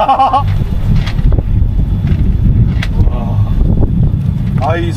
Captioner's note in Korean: 우르릉 쾅쾅